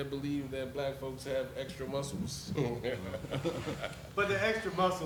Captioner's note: laughs